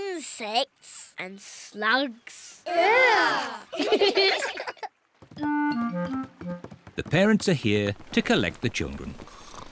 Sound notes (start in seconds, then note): 3.6 giggle; 7.6 snores